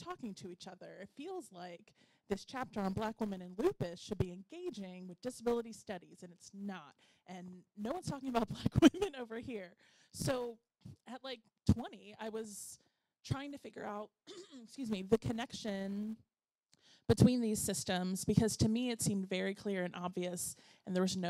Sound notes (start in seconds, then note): 14.3 clearing throat